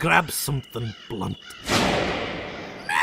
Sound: another whoosh

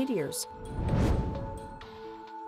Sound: whoosh

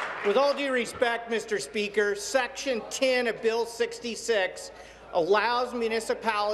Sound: applause

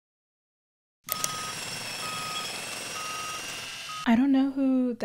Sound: obnoxious construction noises

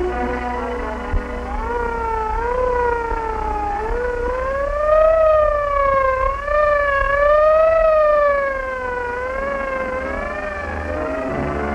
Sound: siren sounds, ambulance speeds through the night

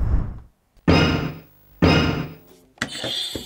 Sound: object thudding; buzzer rings

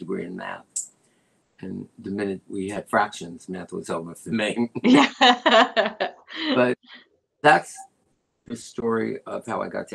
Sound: laughter

